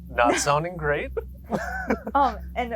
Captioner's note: both laughing